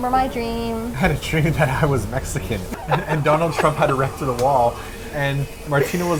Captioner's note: laughing